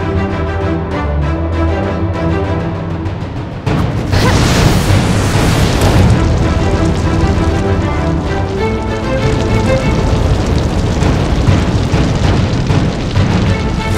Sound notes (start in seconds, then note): 4.3 Bellatrix grunts; 6.3 fire blazing